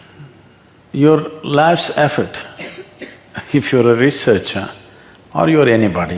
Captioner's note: laughs